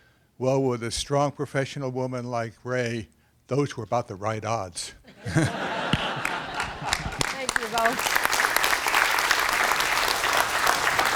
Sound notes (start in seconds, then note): 8.1 applause